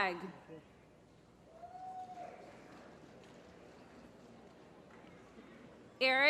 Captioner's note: applause